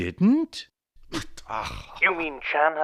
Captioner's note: fft! Ach!